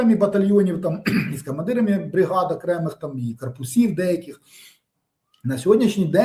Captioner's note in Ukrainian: прочищення горла